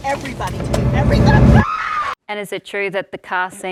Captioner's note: screams